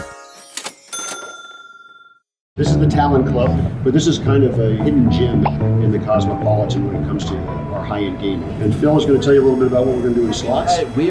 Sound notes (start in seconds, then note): 0.6 ding